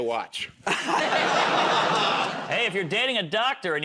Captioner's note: laughter